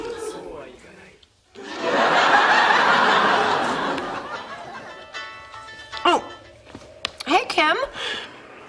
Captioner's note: laughter; phone Rings